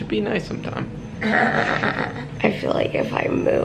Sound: chuckles

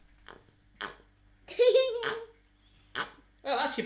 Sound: tube popping

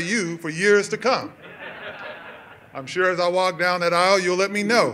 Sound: laughter

